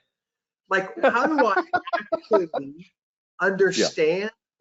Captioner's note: laughs